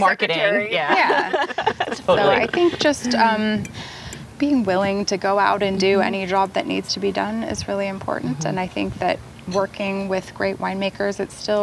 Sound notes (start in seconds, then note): 0.6 laughs